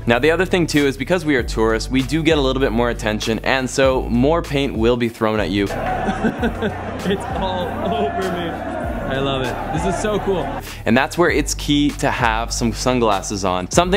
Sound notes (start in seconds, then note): 5.6 laughing